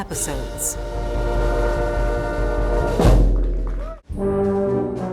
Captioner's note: people cheering; bright band music